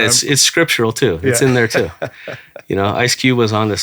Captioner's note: laughing